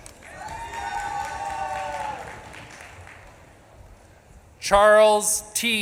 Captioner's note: audience claps and cheers